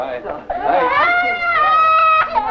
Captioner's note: child crying; foreign language